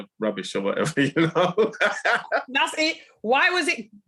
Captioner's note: laughing